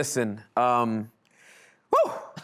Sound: laughing

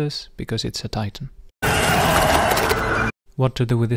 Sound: blizzard

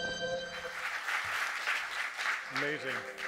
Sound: audience clapping

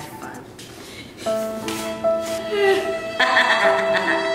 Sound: laughing

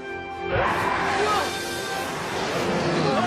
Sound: roaring

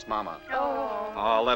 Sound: girls groaning

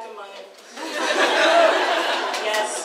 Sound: audience laughs

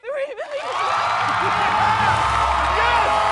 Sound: cheers and applause

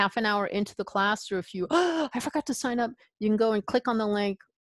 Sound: gasps

